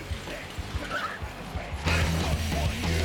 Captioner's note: loud music plays; res screech